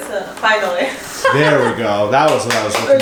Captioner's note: laughs